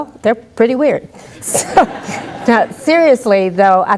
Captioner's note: laughter